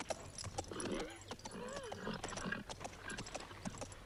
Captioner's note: horse snorts